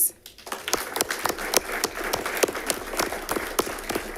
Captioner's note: audience applauding